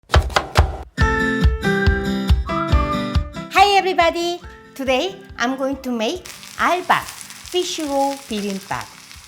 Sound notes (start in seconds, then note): 0.0 knife chopping; 1.0 bright uplifting music